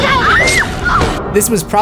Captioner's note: screams